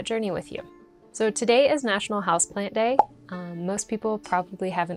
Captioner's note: popping sfx